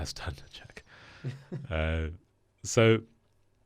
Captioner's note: laughs